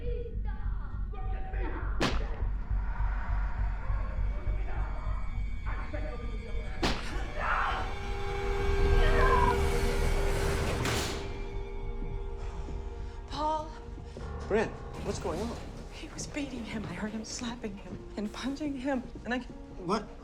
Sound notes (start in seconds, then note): 2.0 object smacking; 3.6 tense eerie music; 8.7 neighbor screams; 9.1 tense eerie music intensifies; 10.9 door clicks